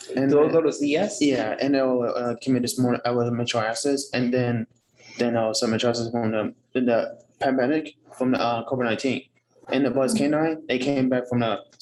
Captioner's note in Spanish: hablando inglés